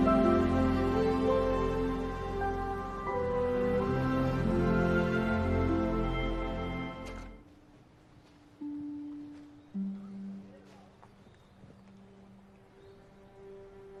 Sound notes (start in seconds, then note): 7.8 brooding music; 7.9 birds chirping